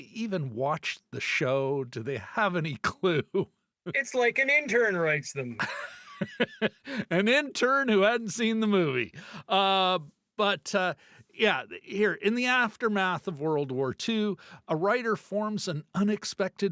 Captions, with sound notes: even watched the show? Do they have any clue? It's like an intern writes them. [LAUGHTER] An intern who hadn't seen the movie. But yeah, here, in the aftermath of World War II, a writer forms an unexpected bond